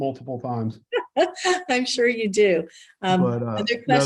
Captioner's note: laughs